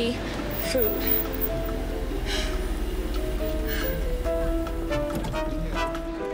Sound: sighs

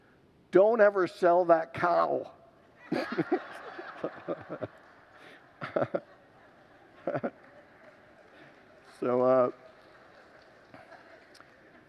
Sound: laughs with congregants; laughs

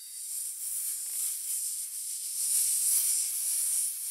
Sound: the hissing of snakes

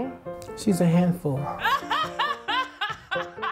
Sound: laughing

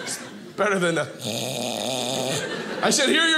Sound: softly mimics snoring

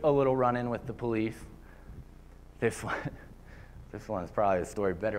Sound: laughter

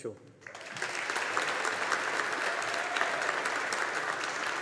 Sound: audience applauding

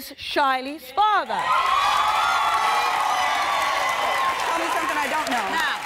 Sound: audience applauding

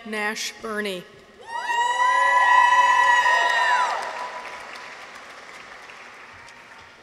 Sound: people cheer; audience applauds

